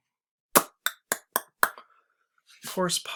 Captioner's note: clicks tongue